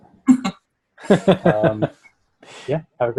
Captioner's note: laughing